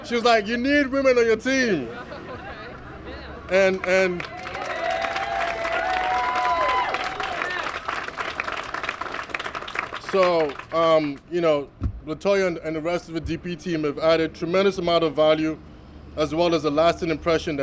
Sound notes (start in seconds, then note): 3.9 cheers and applause